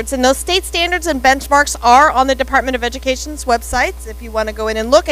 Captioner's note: none